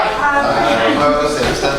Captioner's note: A chorus of ayes